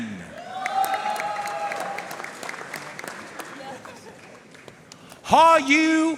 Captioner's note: audience cheering and applauding